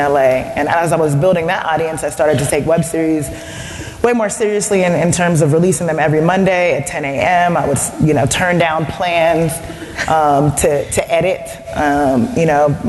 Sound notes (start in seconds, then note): none